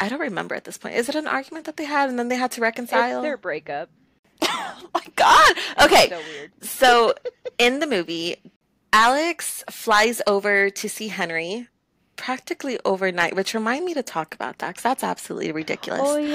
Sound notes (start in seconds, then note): 7.0 laughter